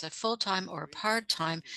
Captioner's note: speaking French